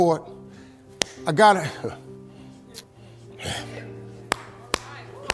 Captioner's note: audience applauding